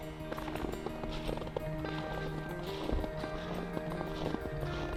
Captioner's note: footsteps stomping